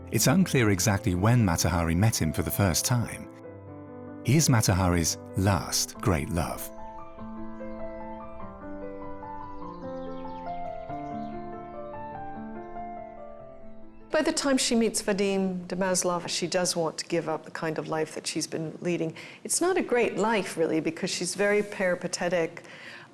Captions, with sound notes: It is unclear exactly when Mata Hari met him for the first time. He is Mata Hari's last great love. [birds tweet] By the time she meets Vadim de Maslov, she does want to give up the kind of life she's been leading. It's not a great life, really, because she's very peripatetic,